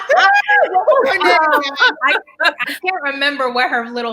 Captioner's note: laughs loudly